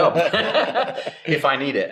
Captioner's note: everyone laughs